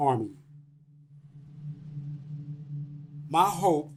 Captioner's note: soundbite of electronic wave pulsing